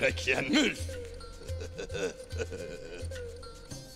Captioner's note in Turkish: Gülme sesi